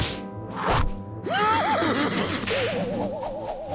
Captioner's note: laughs